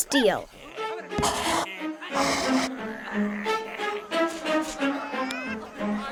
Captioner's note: voiceover; dramatic music; crowd making chaotic noises